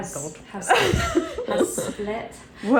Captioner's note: laughs